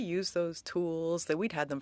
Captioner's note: speaking French